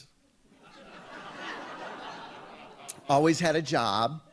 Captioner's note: audience laughs